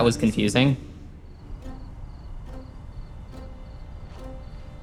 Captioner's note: crickets chirping